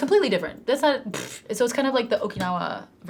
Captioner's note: blows raspberry